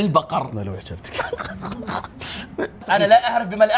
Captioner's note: laughing